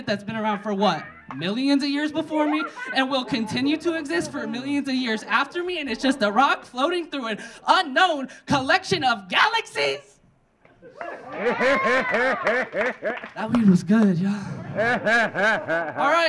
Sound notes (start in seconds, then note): 10.8 audience laughing; 10.9 audience cheering; 12.5 audience clapping